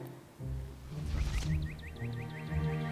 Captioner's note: faint woosh